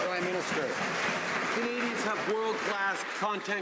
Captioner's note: some Applause